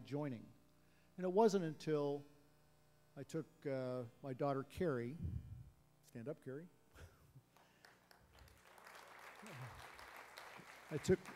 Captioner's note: applause; laughs